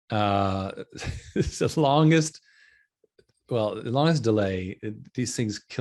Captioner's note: laughing